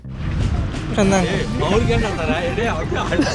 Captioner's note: indistinct chatter